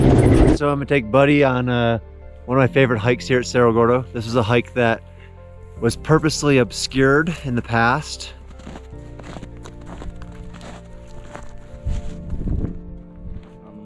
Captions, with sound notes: - So, I'm gonna take Buddy on one of my favorite hikes here at Cerro Gordo. This is a hike that was purposely obscured in the past. (snow crunching)